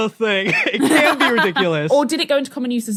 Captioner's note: laughs